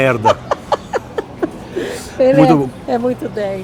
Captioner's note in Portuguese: risos